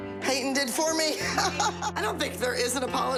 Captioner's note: laughs